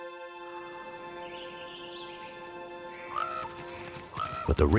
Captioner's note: birds chirping and cawing